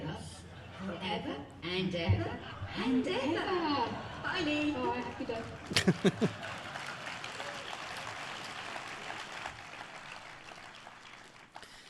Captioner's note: audience applauding